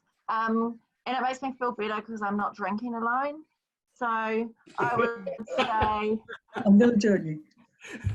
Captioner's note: laughter